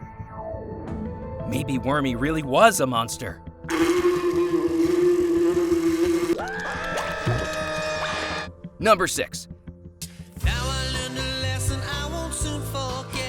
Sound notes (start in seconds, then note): 3.7 buzzing; 6.2 screaming